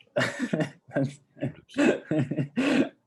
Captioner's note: laughs